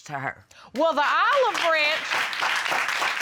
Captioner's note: applause